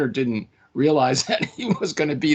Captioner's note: laughing